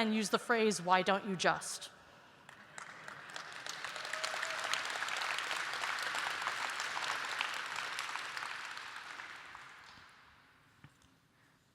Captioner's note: applause